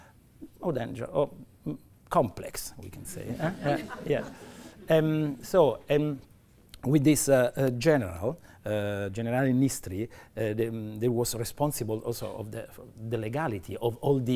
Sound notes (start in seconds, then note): 3.1 laughter